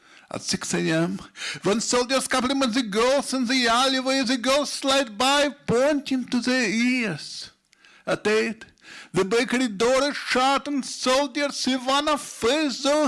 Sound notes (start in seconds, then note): none